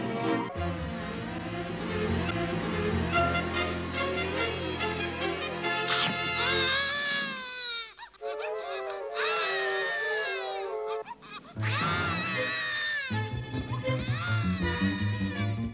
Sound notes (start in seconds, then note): 5.8 munches; 6.5 bawling